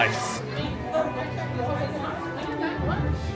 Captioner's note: people chatter